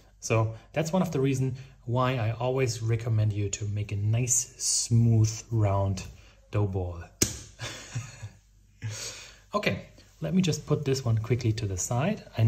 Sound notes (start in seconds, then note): 7.2 smacking; 7.6 chuckling